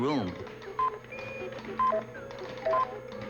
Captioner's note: computers beeping